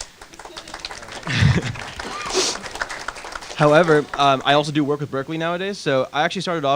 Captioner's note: applause